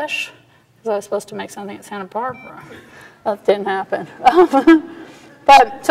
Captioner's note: quietly; laughs